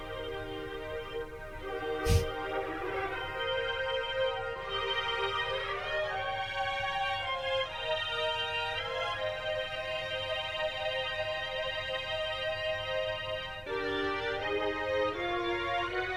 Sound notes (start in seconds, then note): 2.2 chuckles